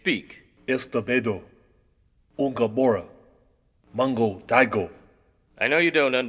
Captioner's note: speaking in a foreign language